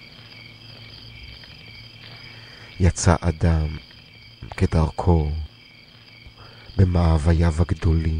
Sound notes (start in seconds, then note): 0.0 bugs chirping; 2.7 narrator speaking in foreign language